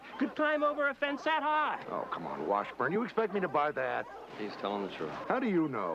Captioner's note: barking